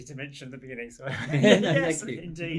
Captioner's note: laughter